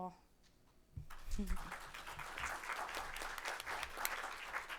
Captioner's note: audience clapping